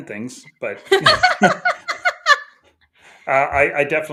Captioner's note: laughing